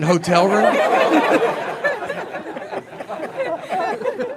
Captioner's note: audience laughing